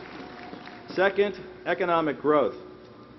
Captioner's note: applause